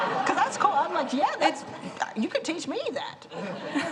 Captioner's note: laughter